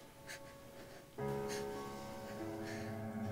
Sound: crying

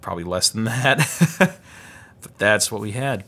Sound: laughs

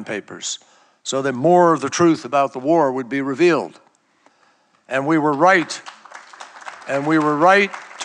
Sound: applause

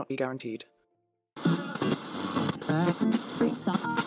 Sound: SFX: Radio static plays, scanning through various channels

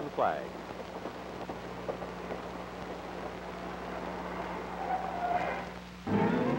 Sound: train sounds

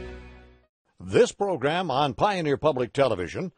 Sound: voiceover

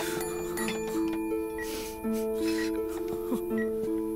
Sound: crying

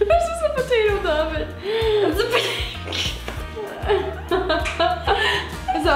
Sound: laughs

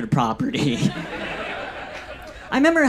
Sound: audience laughs

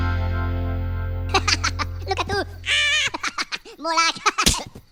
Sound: Silly Minion Sounds

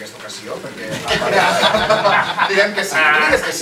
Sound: laughs

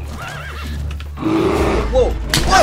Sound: bear growls

